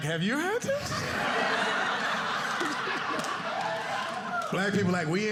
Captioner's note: audience laughing